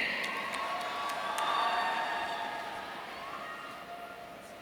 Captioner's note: audience cheering